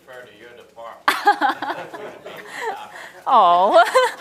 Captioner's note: people chattering